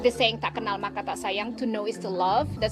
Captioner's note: speaking foreign language